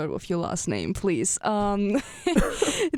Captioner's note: laughs